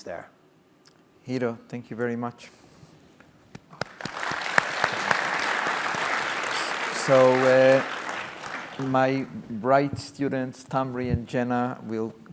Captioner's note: clapping